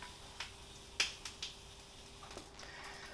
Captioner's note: snap, crackle, POP